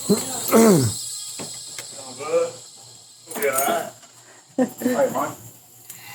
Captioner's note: man grunts